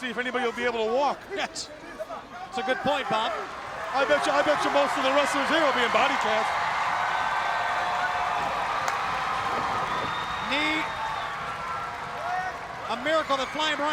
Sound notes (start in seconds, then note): 7.0 crowd cheering